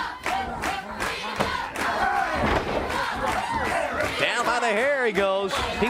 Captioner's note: crowd cheering